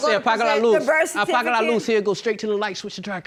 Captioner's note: speaking spanish